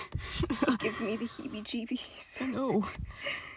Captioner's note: condescending laugh; laughs